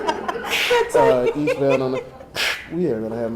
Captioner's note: audience laughing